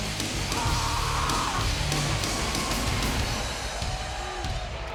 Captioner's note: Brock screams